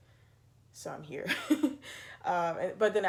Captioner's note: laughs